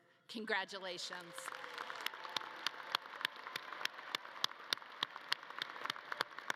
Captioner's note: audience cheering and clapping